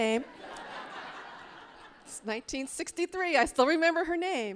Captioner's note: audience laughing